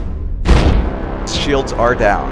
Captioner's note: boom